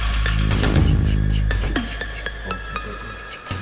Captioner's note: mouth sound